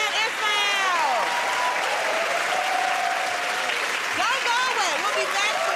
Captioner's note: cheers and applause